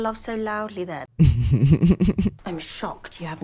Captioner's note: laughter